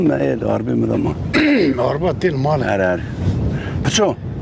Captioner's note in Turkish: boğazını temizler